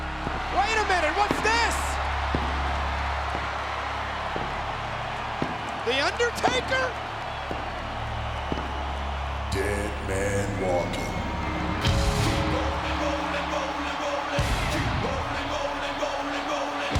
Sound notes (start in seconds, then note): 0.0 crowd cheering; 4.9 crowd cheering; 7.3 crowd cheering; 11.9 crowd cheering; 11.9 upbeat music